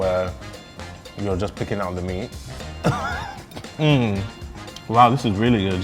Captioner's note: laughs